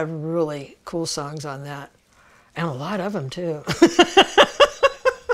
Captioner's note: laughs